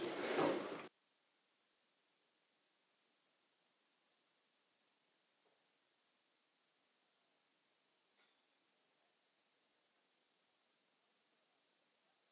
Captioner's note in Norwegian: Lyden er slått av